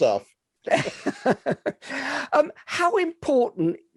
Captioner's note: both laughing